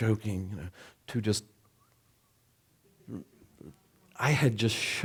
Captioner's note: soft whistling